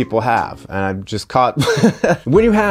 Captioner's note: laughs